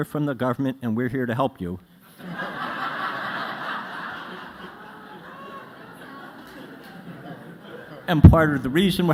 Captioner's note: laughter